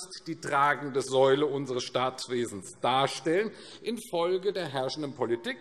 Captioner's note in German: none